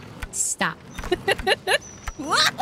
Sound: laughter

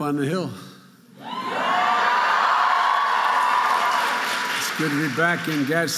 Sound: audience cheering

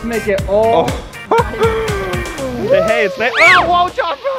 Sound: laughing

